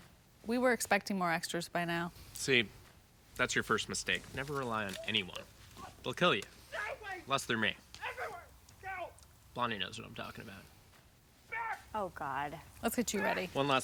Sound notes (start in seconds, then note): 8.8 scott continues screaming